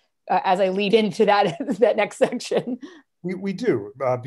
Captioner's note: laughter